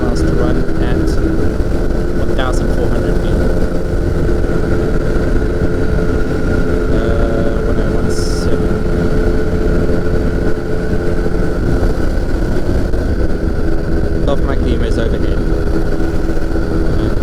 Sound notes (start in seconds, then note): 3.8 plane engine rumbling